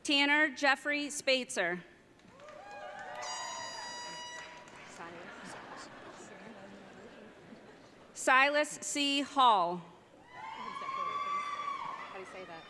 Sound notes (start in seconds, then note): 3.2 airhorn blasting; 3.4 audience laughing